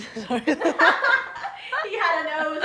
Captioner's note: laughs